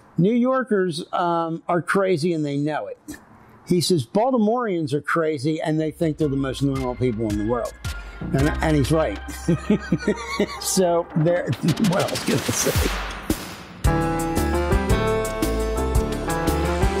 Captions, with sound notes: New Yorkers are crazy and they know it. He says, Baltimoreans are crazy, and they think they're the most normal people in the world. And he's right. [laughs] So... What else can I say? [outro music]